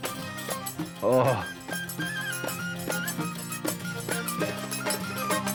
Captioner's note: William groaning